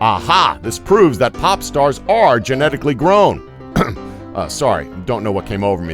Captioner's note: cough